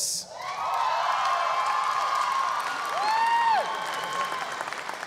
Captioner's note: audience applause